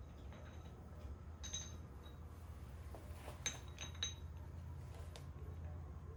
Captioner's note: bell dings